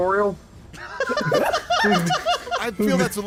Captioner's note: laughter